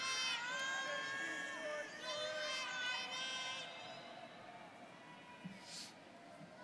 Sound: students cheering

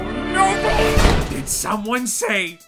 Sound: door Slams

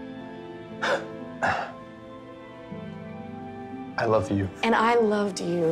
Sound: Dane scoffs

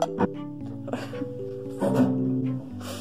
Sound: laughter

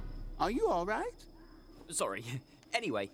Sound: chuckling

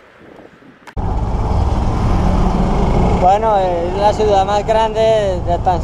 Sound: tuk tuk noise

